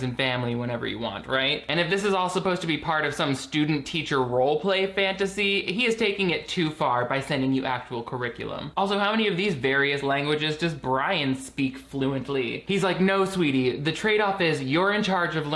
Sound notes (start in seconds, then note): none